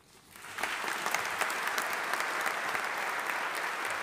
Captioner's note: audience applauding